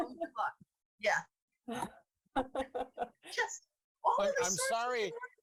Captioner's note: laughing